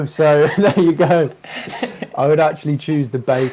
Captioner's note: laughter